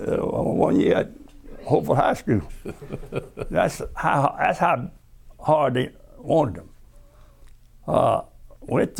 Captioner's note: laughter